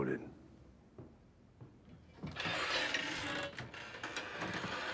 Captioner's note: la porte s'ouvre en grinçant